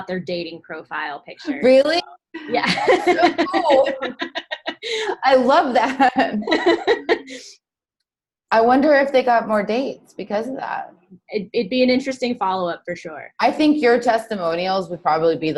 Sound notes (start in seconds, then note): 2.3 laughing